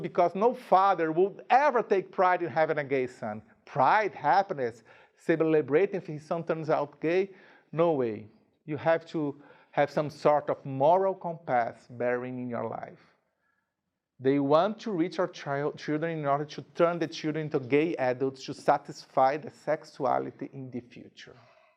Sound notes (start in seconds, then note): none